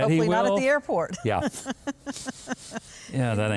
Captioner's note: laughing